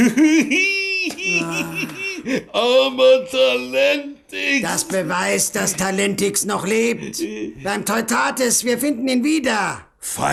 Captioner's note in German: gelächter